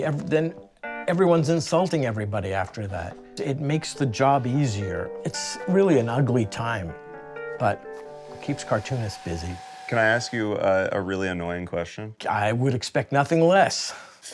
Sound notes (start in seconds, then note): 8.2 dryer whirring